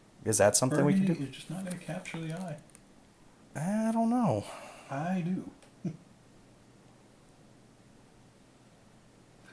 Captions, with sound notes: Is that something we could do? -: Burgundy is just not gonna capture the eye. -: I don't know. -: I do. (chuckles)